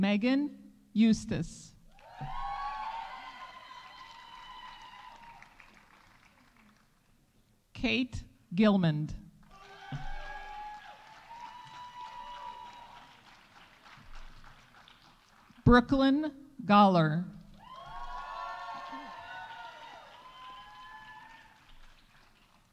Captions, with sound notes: Meghan Eustace. -(audience applauding) -(audience cheering) Kate Gilmond. -(audience applauding) -(audience cheering) Brooklynn Goller. -(audience applauding) -(audience cheering)